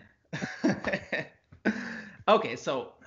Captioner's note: both laugh